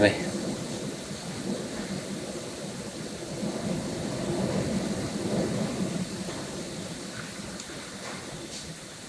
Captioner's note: strong gales in the background